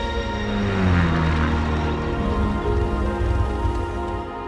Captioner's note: plane buzzing